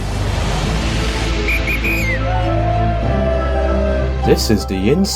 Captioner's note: whistle and cheers